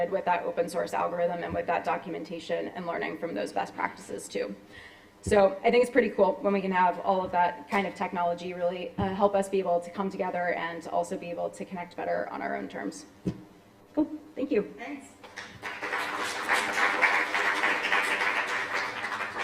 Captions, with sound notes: with that open source algorithm and with that documentation and learning from those best practices too. So I think it's pretty cool when we can have all of that kind of technology really help us be able to come together and also be able to connect better on our own terms. Cool. Thank you. [APPLAUSE]